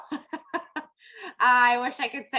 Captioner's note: laughs